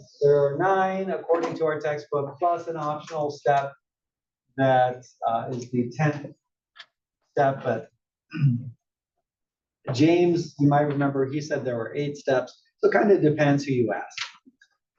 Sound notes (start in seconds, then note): 8.3 cough